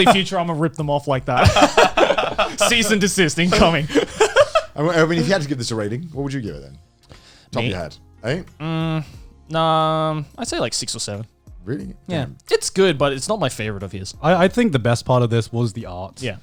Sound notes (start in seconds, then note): 1.4 both laughing